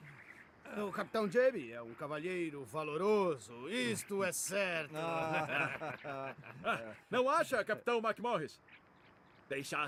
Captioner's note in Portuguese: risadas